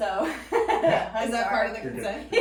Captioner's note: laughing